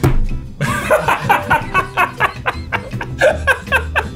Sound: both laughing

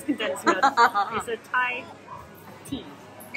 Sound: laughs

